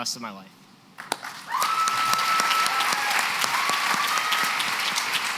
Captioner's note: applause